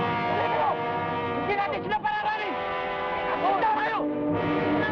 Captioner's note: men shout in Tagalog